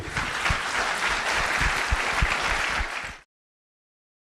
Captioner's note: audience applauding